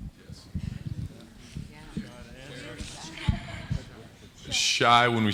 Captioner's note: indistinct conversation